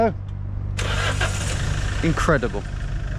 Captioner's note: car engine starting